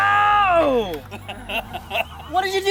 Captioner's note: laughter